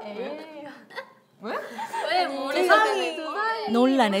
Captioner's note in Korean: 삐릿.삐릿